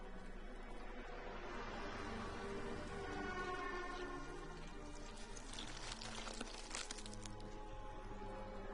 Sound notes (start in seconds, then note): 5.1 slime squelching